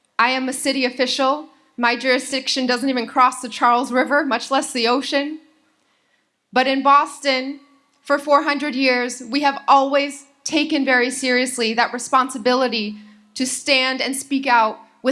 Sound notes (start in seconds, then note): none